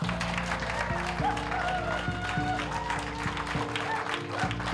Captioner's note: cheers and applause